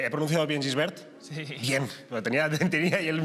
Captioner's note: laughs